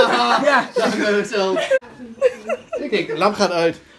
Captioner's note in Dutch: gelach